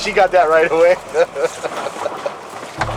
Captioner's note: laughter